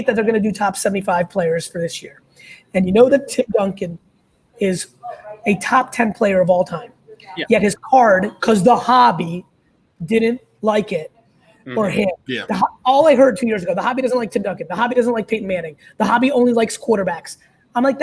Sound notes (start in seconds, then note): none